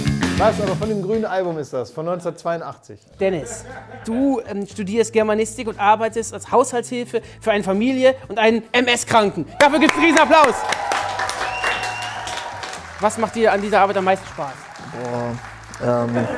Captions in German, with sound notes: Von dem grünen Album ist das, von 1982. Dennis, du studierst Germanistik und arbeitest als Haushaltshilfe für eine Familie und einen MS-Kranken. Dafür gibt's einen Riesenapplaus. (Jubel, Applaus) Was macht dir an der Arbeit am meisten Spaß? Boah ...